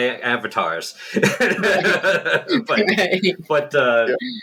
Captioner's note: laughter